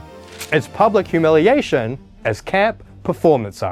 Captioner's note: page turning